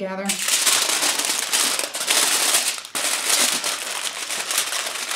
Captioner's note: tinfoil rustles